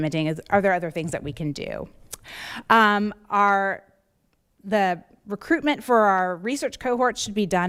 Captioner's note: none